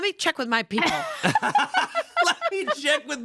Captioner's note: everyone laughs